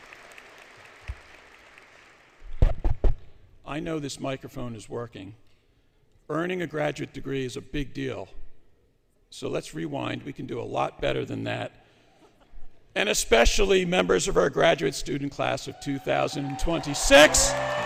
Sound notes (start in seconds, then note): 0.0 applause; 2.5 taps Microphone; 11.8 chuckling; 16.4 applause, Music